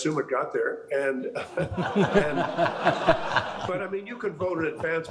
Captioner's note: all laughing